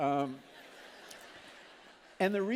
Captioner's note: laughter